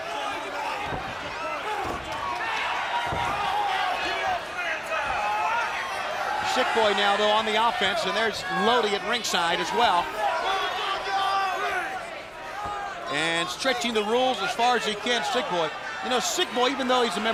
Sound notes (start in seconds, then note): 0.1 crowd cheering; 10.2 crowd chatter